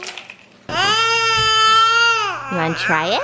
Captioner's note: baby squealing